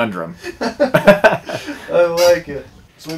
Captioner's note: laughter